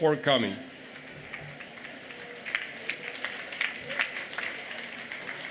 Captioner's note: applause